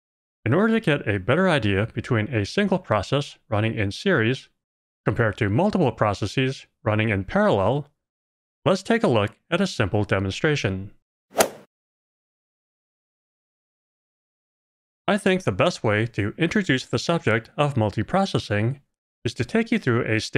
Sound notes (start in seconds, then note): 11.4 golf ball hit sound